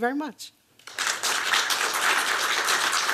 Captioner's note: applause